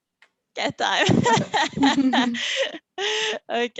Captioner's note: laughing